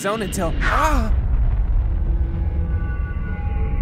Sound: explosion vibrations

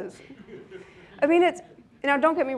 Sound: laughing

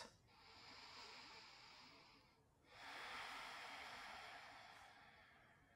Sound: deep breathing

